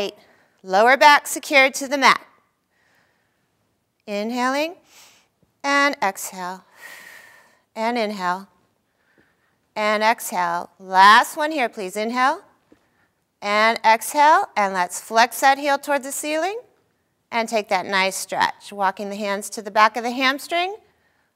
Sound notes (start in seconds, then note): 4.4 inhaling; 6.7 exhaling